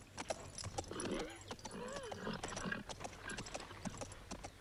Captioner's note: horse snorts